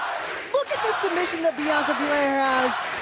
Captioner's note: fans chanting